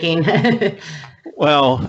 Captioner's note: laughs